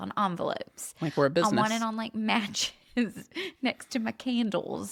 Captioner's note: laughs